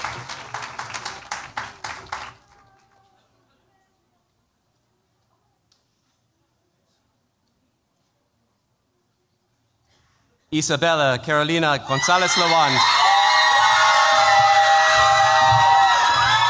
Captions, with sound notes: Isabella Carolina Gonzalez-Lawand. [CHEERS, APPLAUSE]